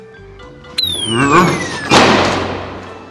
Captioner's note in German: Abfallender Ton, verzerrte Stimmen